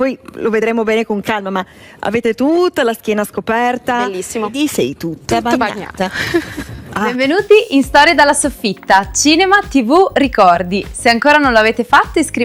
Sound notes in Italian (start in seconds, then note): 6.1 risate